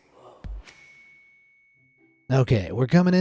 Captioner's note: star dings